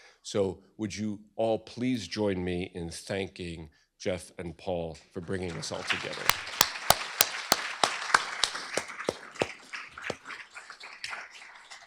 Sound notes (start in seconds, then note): 6.3 applause